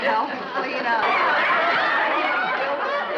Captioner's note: laughter